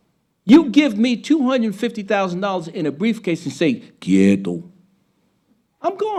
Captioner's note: speaking Spanish